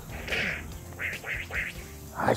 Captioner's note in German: Dynamische Spielgeräusche